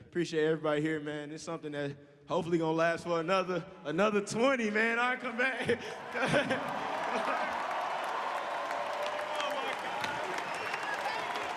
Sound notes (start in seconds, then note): 7.5 crowd cheering